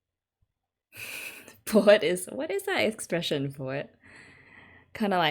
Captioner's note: laughs